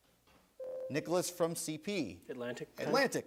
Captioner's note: buzzer sounds